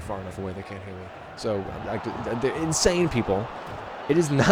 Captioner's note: stammers